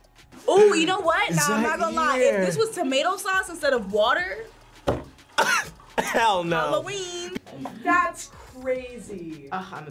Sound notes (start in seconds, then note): 5.9 laughs